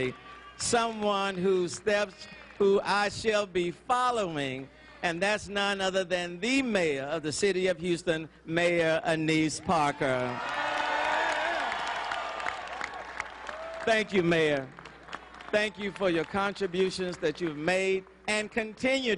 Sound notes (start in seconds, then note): 14.5 cheering; 16.5 applause